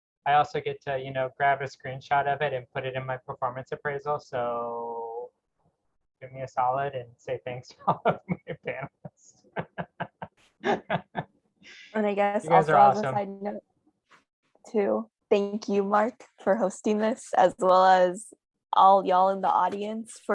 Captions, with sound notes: I also get to, you know, grab a screenshot of it and put it in my performance appraisal. So give me a solid and say, thanks (laughs) - Oh, my God you guys... - You guys are awesome. - Too, thank you Mark for hosting this as well as all y'all in the audience